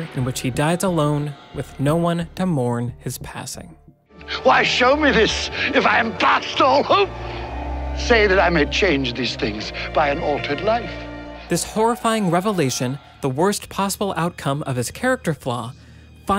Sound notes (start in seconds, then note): 1.0 tense music; 3.4 light rhythmic music; 5.2 dramatic music; 7.1 wind whistling; 14.0 light rhythmic music